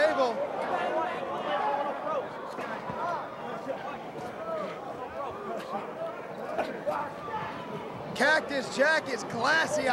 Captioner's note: crowd chatter